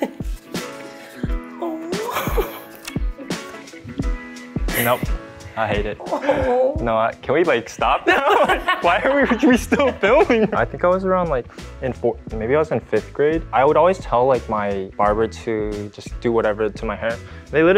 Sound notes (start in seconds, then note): 0.1 laughs; 2.2 upbeat music plays; 8.0 both laughing